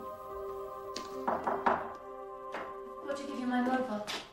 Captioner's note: knock on door